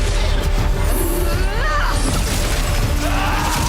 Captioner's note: screams